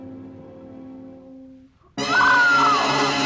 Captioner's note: Barbra screams